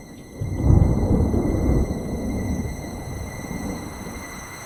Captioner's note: thunder rumbles